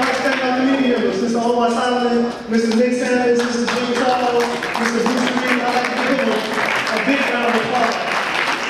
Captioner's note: audience applause